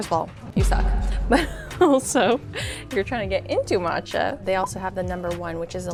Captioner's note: chuckles